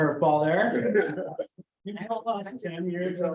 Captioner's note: laughter